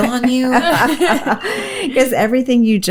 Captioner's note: laughs